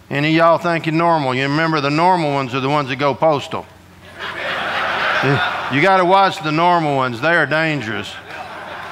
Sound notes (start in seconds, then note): 4.0 audience laughing